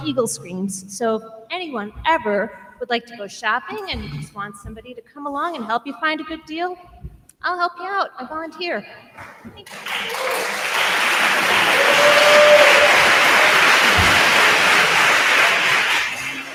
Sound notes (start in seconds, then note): 9.6 attendees applauding; 11.4 attendee cheers